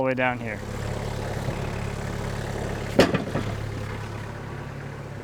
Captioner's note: engine rumbles